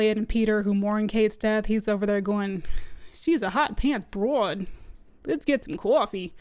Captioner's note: bad New York accent